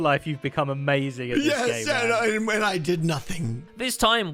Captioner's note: tongue-tied